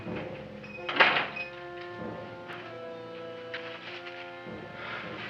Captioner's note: door slamming